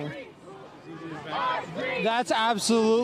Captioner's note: chanting